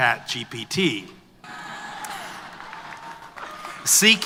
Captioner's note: applause